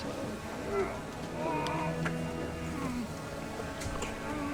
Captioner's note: men grunting and groaning